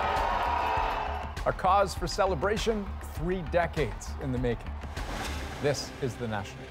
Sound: cheers and Applause

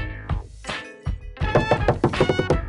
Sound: knocking noises; knocking noises SPED UP

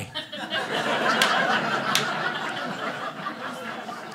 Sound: audience laughing

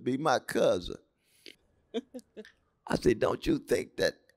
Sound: laughter

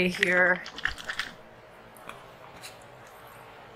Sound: paint sloshing

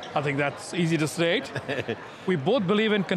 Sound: chuckles

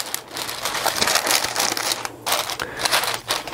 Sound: paper rustling

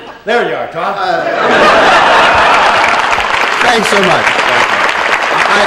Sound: laughter and applause

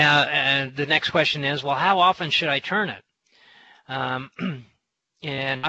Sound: clears throat

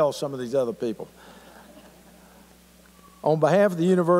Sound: laughter

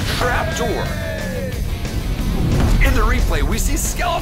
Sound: cheers

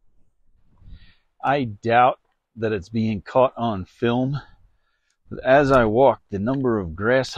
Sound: wind noise

